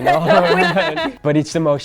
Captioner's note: all laugh